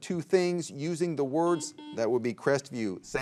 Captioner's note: buzzer beeps